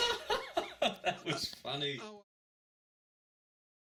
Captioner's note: laughter